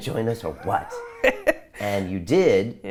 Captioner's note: laughs